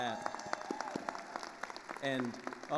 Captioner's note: attendees cheering and applauding